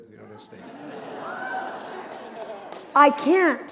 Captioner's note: cheering